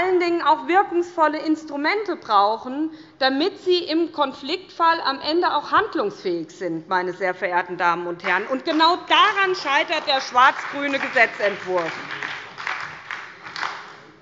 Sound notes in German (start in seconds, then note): 8.2 Beifall bei der SPD